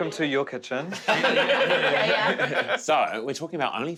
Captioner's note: laughing